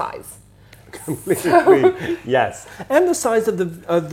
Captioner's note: laughs